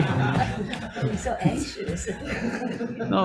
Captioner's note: group laughing